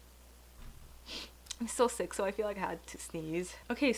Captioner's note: sniffs